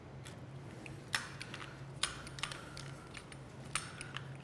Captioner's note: tool clicking